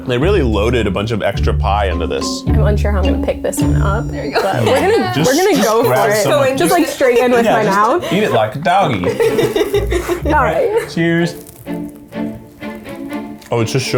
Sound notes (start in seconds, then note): 5.0 laughs; 9.7 all laugh; 11.6 bright orchestra music